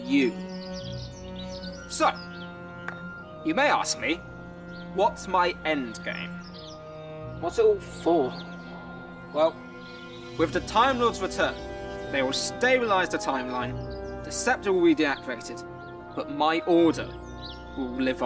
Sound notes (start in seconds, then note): 2.8 claps hands